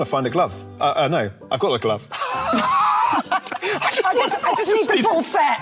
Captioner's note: laughing